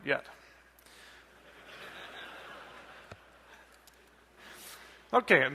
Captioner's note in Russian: смех